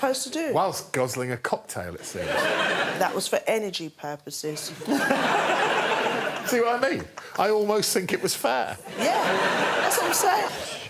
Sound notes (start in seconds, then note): 6.5 laughter